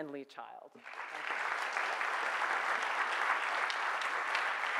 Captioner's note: audience applauds